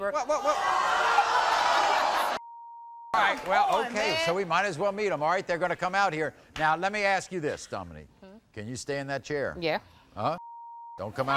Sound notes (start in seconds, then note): 0.3 crowd gasping; 2.4 beep